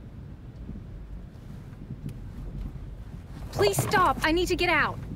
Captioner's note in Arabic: صراخ الفرامل للتوقف